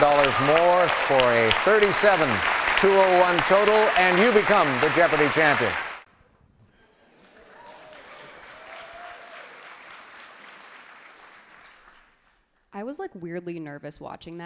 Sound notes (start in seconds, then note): 6.2 crowd cheers loudly